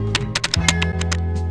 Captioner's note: typing